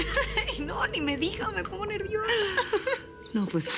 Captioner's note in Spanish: Risas